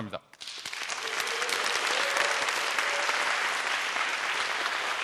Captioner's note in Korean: 박수